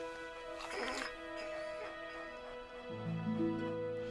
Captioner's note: Buck whines